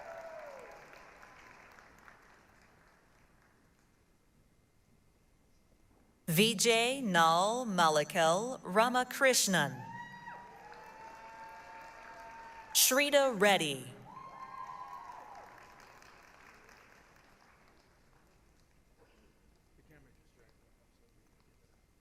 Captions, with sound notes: [APPLAUSE, CHEERING] Vijay Naal Malickel Ramakrishnan. [APPLAUSE, CHEERING] Shrita Reddy. [APPLAUSE, CHEERING]